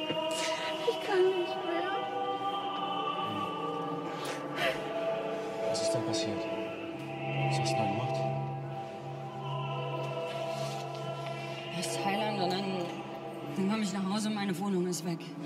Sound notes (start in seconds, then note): 0.0 sobs